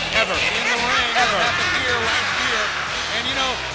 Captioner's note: Tony speaks faintly